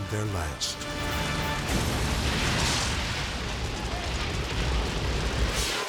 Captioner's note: gas exploding; dramatic music